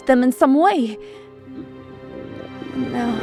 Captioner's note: stomach growl